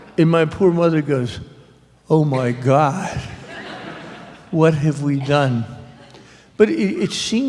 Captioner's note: laughter